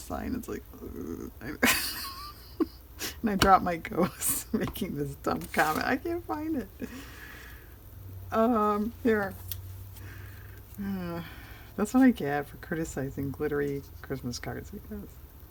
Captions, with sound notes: and it's like... eww... (laughs) and i dropped my ghost (laughs) making this dumb comment i can't find it-- here that's what i get for criticizing glittery Christmas cards